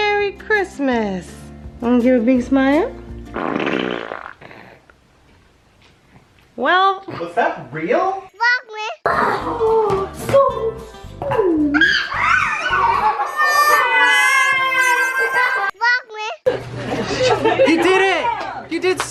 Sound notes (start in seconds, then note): 3.3 baby farts; 11.7 children cheering